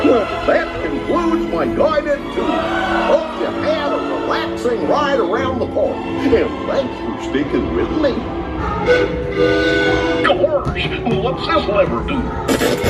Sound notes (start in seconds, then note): 8.8 train whistle blares